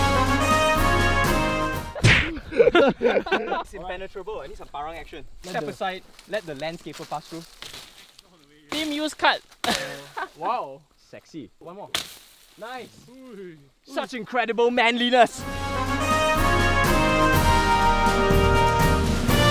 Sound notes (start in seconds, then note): 1.9 laughs; 2.0 smashes